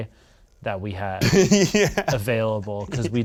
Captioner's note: laughing